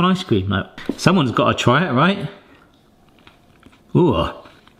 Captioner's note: munching